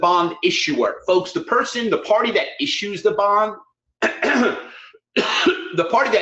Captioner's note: coughs